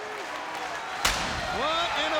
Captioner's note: audience cheering; explosion booming